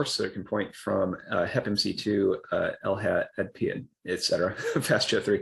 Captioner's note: speaks in scientific language; laughs